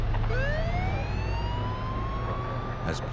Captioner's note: sirens